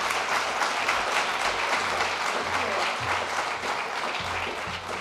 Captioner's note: applause